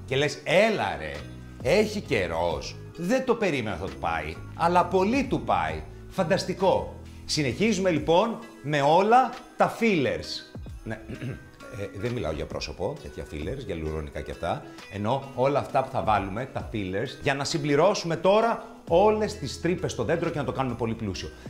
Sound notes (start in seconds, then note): 11.0 clears throat